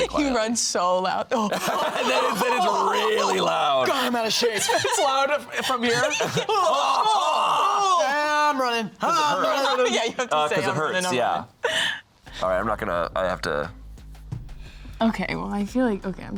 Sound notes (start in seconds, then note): 2.1 laughs; 7.4 shouting